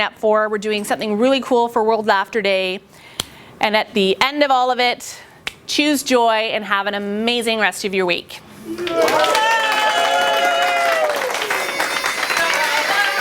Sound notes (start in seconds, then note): 8.7 applause